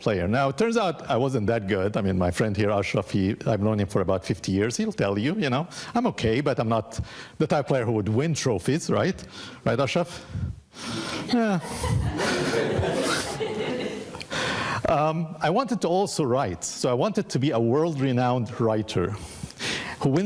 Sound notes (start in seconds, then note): 11.2 audience laughing